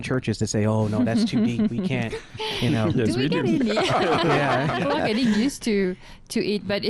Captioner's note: laughing